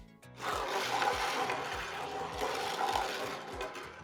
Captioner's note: balls rattle